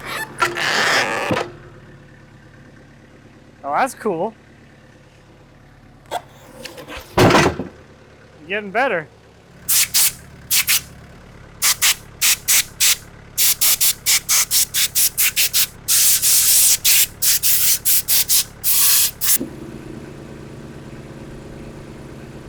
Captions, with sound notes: (slab squeaking) Oh, that's cool. (slab thuds) We're getting better? (air whooshing) (engine revving)